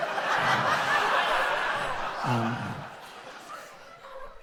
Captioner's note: audience laughs